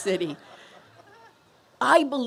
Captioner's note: laughter